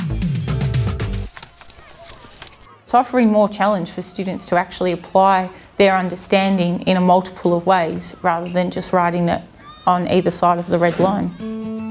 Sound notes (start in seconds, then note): 0.0 upbeat music; 1.1 paper ruffling; 1.3 children playing